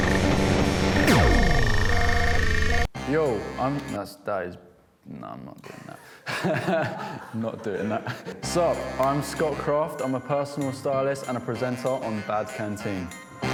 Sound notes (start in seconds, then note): 5.6 laughs